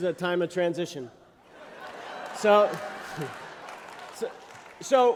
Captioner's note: laughter